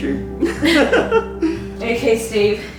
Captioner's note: laughing